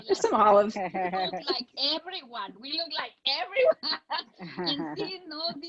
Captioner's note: laughing; laughs